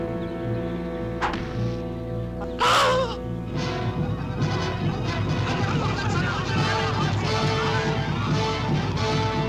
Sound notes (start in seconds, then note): 1.2 arrow whooshing; 2.4 man gasping; 4.3 group shouting; 4.3 menacing orchestral music